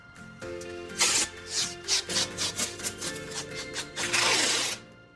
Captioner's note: wood thumping; tape screeching